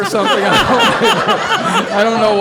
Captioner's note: all laughing